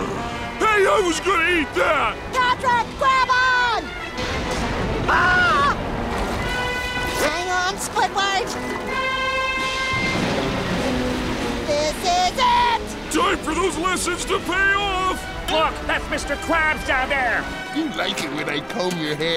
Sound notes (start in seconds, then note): 5.0 screaming